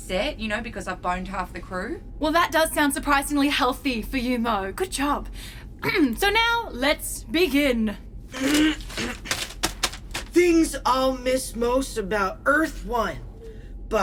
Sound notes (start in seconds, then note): 5.8 Aurelia clears her throat; 8.3 Dusty loudly unfolds a list and clears her throat to read